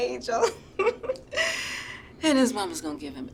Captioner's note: chuckles